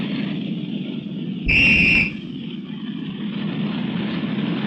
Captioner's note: whistle blowing